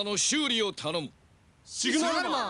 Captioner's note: Carrangers exclaim the obvious in English